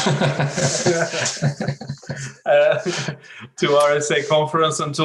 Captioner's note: both laughing